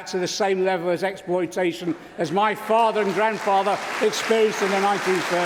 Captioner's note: applause